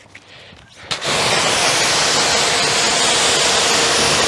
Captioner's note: water splashing